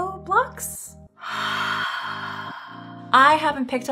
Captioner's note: breathes deeply